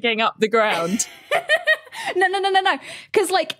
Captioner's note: laughs